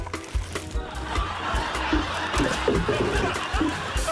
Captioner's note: laughter